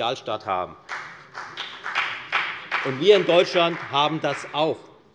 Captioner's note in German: Beifall bei der FDP